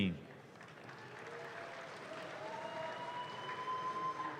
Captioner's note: audience claps